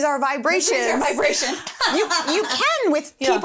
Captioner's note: laughing